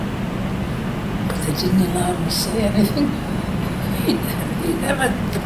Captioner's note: laughs